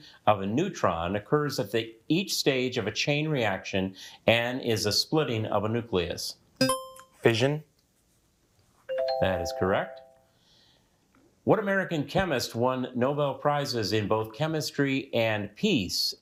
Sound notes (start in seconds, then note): 6.6 buzzer beeps; 8.9 bell dings